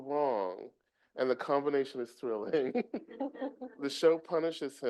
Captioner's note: chuckling